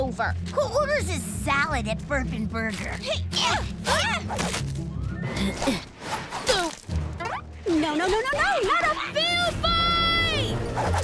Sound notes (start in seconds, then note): 2.6 groaning